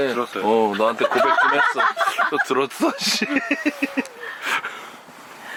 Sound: laughs

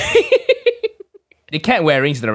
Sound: wheezes

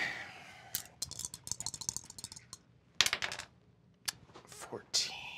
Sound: dice rattle

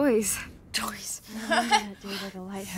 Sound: chuckles

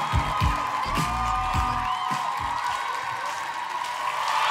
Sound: music fades out; audience cheering

